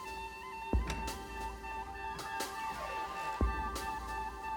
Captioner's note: door creaks open